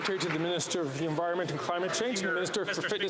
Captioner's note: some Applause